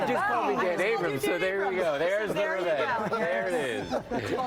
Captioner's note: laughter